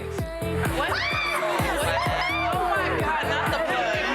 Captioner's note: women chattering